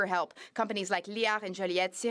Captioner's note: speaking French